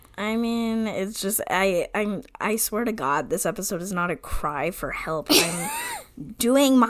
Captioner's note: stammering